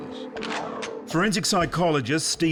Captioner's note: gun cocks